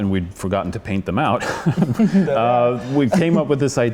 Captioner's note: laughter